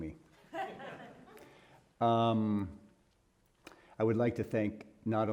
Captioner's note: audience laughing